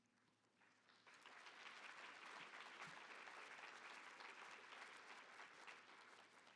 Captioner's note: applause